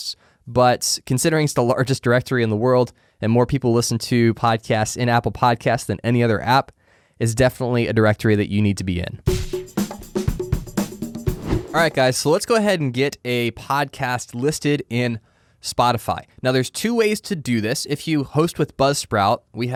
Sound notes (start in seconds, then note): 9.2 percussive music; 9.3 screen whooshing